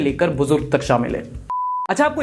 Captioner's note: beep